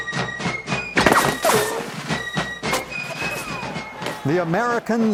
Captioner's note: lively fife and drum music; guns firing